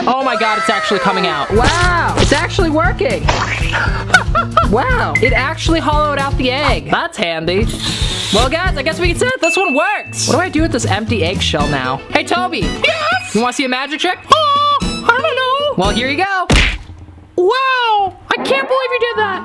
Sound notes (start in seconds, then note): 2.1 splatting; 3.4 laughing; 16.5 smack